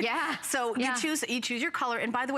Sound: laughter

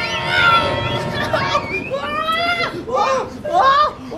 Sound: screaming

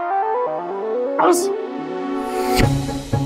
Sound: sneezing

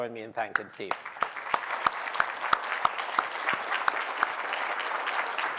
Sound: applause

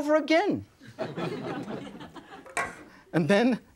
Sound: audience laughing

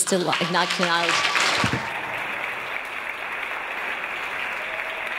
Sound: audience applause

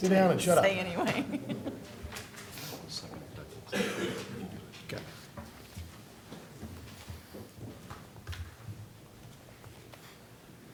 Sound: laughter

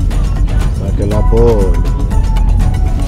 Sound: man speaking african language

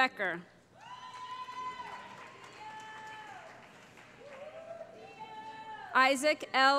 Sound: cheering

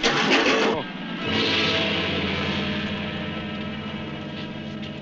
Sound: water splashing; gentle instrumental music

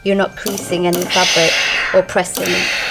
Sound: steam whooshes

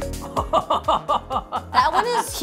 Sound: laughing

